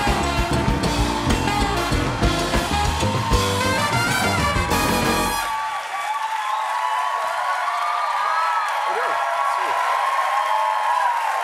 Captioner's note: cheers and applause